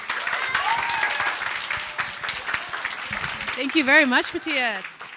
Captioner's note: audience applauding